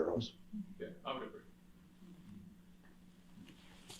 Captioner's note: man speaking off mic